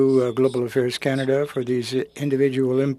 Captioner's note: speaking French